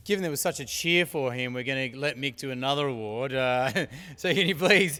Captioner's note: laugh